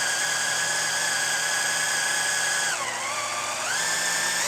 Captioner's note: drilling